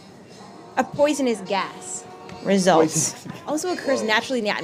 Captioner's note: laughs